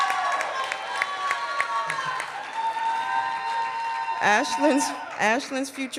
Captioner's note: cheering and applause